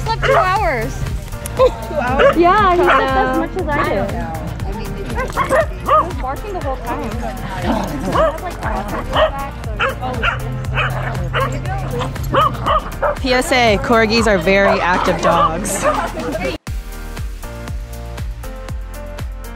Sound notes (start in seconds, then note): 0.0 dogs barking; 3.9 dogs barking; 7.7 dogs growling; 8.6 dogs barking; 8.8 dog barking; 13.5 dogs barking; 15.3 dogs barking; 16.8 upbeat music